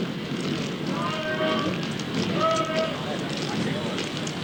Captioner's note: people walking, talking